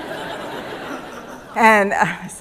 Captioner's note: laughter